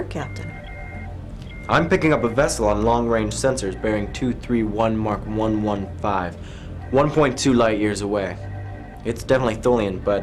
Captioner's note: alarm